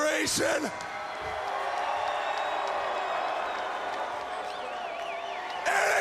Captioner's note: crowd cheering and booing